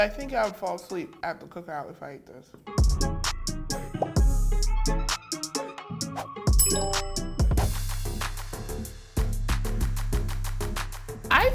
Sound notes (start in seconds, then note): 2.6 smooth music continues; 6.6 text chimes; 7.9 upbeat music plays